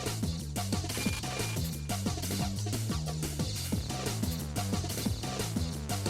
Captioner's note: game audio